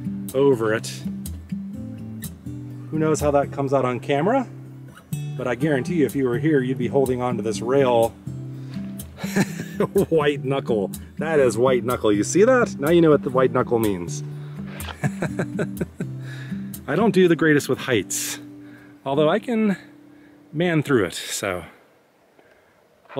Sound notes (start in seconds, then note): 14.8 laughter